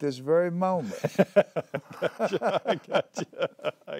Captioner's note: laughter